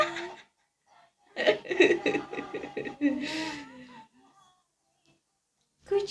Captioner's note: laughs